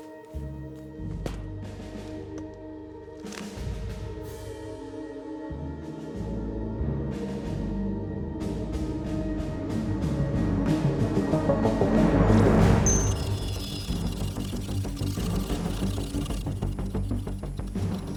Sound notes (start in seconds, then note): 0.2 eerie music continues; 9.8 dramatic music; 13.2 device whirring